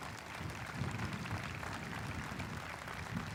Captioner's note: audience applauding